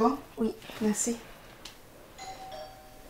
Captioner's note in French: ding-dong!